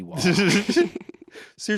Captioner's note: everyone laughs